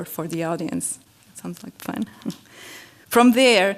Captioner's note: laugh